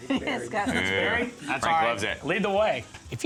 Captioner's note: laughs